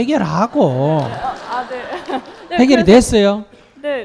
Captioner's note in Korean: 청중 웃음